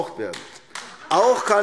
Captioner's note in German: Beifall AfD